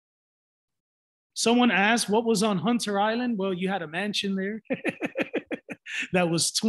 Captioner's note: laughs